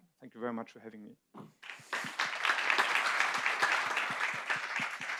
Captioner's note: audience applauds